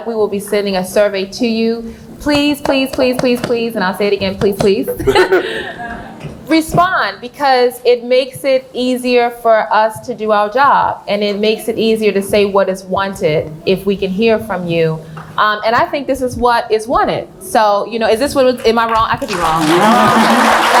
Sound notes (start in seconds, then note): 7.2 laughs